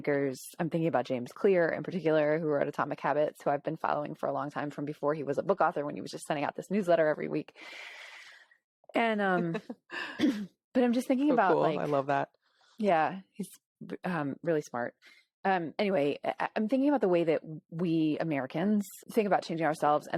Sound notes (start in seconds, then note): 9.2 laughs